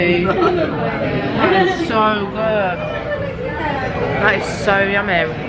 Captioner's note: laughing